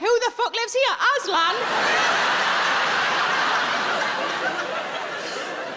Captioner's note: audience laughing